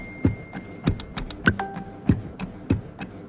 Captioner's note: phone dinging; computer dinging; pen tapping to beat